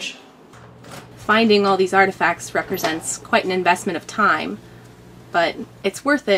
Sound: sound of unlocking door and squeaking after it's opened

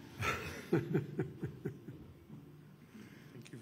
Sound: laughs

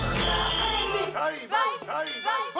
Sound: whistle

